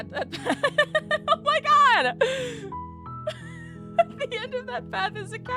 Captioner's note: laughter